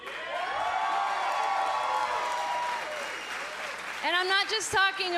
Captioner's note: cheers & applause